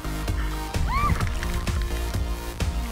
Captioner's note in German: Sie kreischt